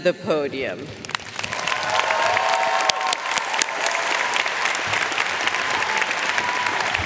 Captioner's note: audience cheering and applauding